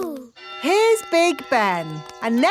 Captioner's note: clock chimes